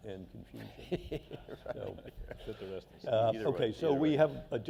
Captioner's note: laughter